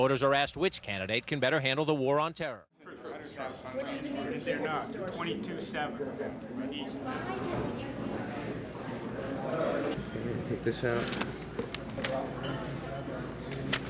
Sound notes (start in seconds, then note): 9.6 general sound in room; 10.6 papers rustling